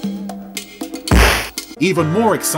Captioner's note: crashing